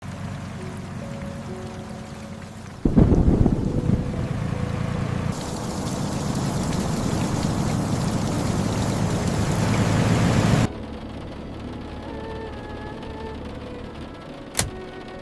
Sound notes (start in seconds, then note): 1.0 steady rain across the red rock desert